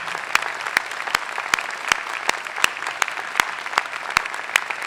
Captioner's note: applause